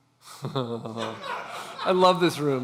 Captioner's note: laughing